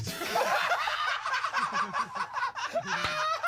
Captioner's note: all laugh